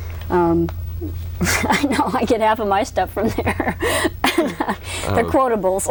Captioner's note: laughter